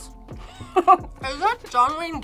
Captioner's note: laughs